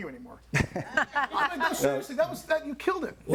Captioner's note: all laughing